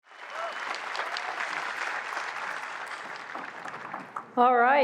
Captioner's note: applause